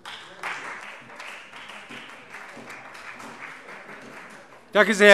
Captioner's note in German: Beifall Freie Demokraten und vereinzelt SPD